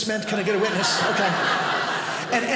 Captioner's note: audience laughing